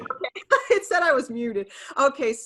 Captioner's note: laughs